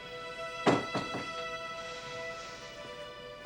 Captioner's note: door thuds